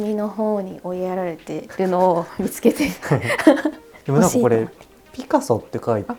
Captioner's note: laughter